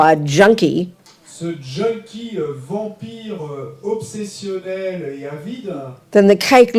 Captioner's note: French